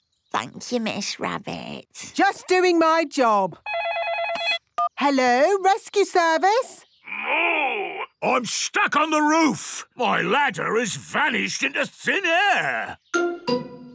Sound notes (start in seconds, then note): 3.6 phone ringing